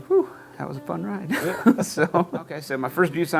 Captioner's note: laughs